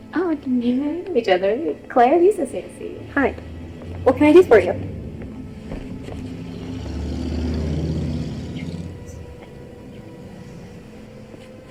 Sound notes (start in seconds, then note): 7.0 engine rumbling; 8.6 Lisa whispering